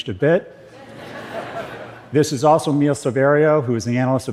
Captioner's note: صدای خنده